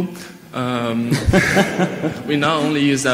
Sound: all laughing

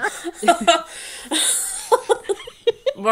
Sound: laughing

